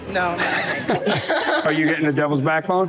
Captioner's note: laughter